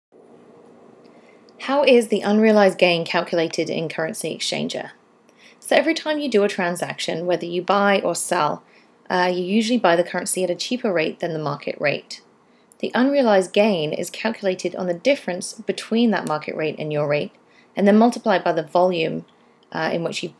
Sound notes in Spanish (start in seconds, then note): 2.5 Voz en off